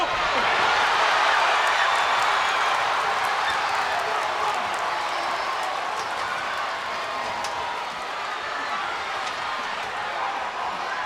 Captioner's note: crowd cheering